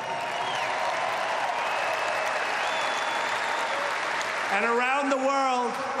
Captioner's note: applause